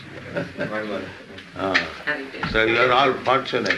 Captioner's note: chuckles